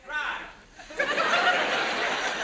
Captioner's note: audience laughs